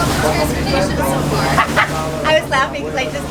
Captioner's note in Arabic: ضحك